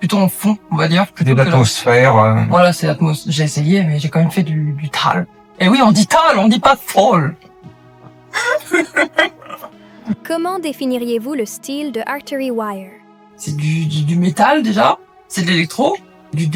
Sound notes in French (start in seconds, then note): 8.3 rires